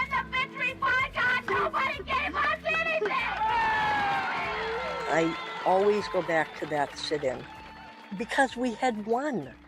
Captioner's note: crowd cheers